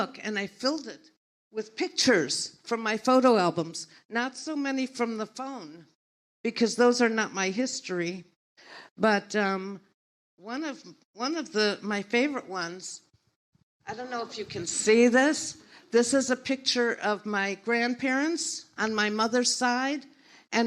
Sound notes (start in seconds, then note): none